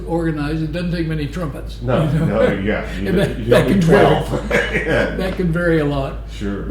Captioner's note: laughter